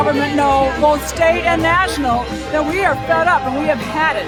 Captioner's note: cheers